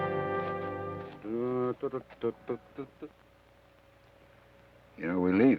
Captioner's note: Joshua hums melodically